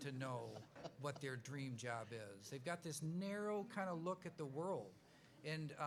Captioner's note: laughs